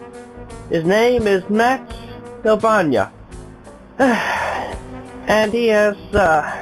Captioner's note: sigh